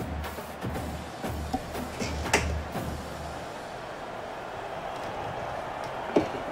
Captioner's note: ball bouncing